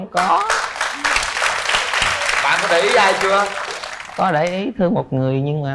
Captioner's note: applause